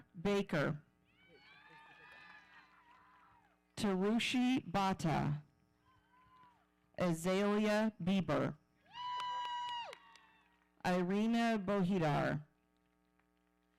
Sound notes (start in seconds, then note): 1.3 audience cheering; 8.9 audience cheering